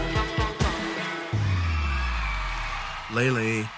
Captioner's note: cheering